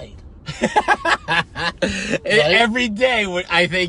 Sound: laughing

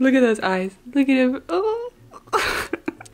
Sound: laughs

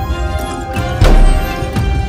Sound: dramatic hit

